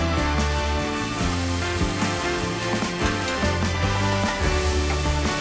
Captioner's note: feel good music; food sizzling